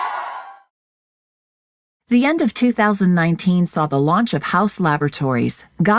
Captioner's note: audience cheering